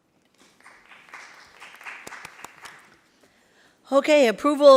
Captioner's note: applauding